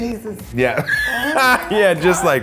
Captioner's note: laughs